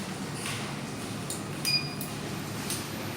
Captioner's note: beep